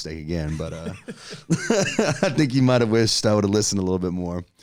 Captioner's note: laughs